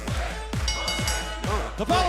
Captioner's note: crowd cheering; bell ringing